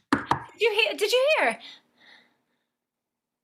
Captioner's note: door knocks